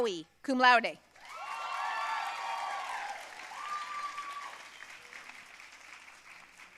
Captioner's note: audience cheering and applauding